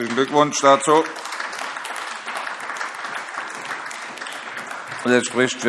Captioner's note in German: Beifall